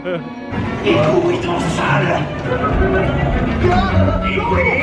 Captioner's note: chef speaking in foreign language